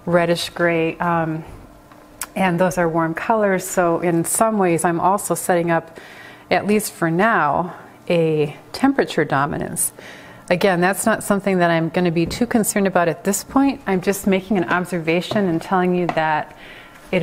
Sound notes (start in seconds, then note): none